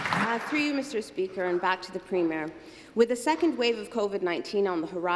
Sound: some Applause

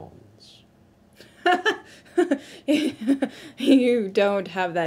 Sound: laughing

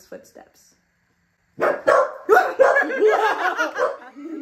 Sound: dogs Barking

